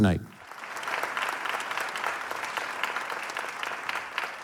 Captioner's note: audience applauding